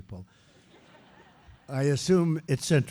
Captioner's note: laughter